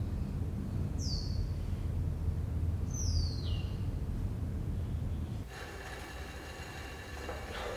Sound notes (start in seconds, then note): 0.0 birds chirping